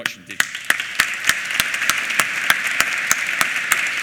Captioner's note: applause